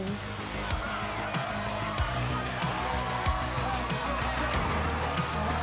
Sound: crowd cheering

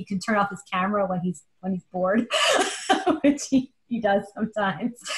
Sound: laughs

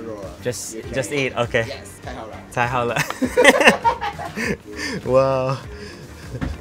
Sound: speaking in Japanese; laughs

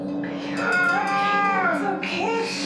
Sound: Sammy screams

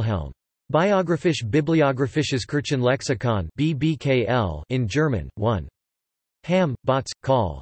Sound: in German

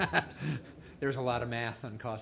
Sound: laughs

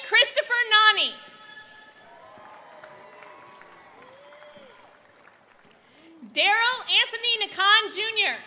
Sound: applause

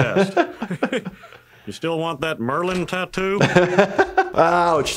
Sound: chuckles; laughs

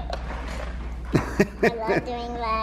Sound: laughing

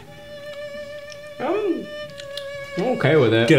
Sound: murmuring

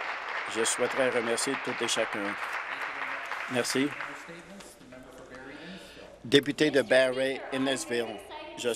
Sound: applause

